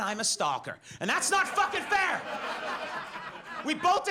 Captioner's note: audience laughs